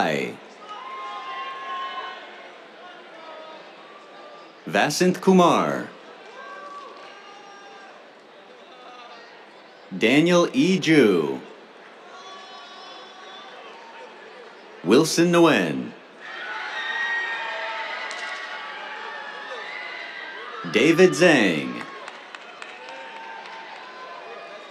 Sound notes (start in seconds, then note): 0.0 cheers; 6.0 cheers, applause; 11.8 cheers; 16.1 cheers; 22.0 cheers, applause